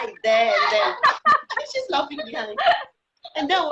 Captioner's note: laughing